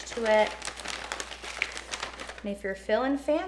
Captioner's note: plastic rustling